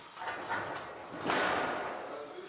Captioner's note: clattering, rumbling